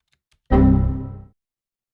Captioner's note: error sound